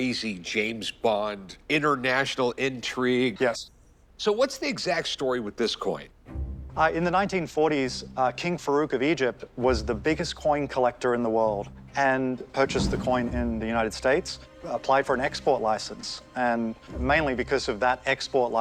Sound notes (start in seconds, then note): none